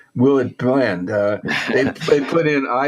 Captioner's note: laughs